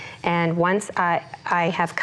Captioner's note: none